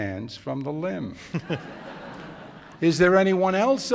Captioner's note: laughter